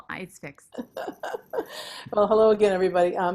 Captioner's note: laughing